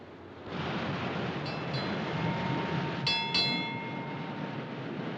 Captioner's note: bell Clanging